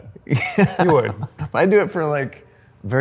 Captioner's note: laughs